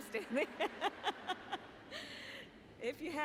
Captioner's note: laughter